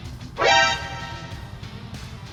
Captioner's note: alert sound effect